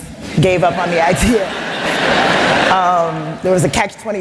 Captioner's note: laughter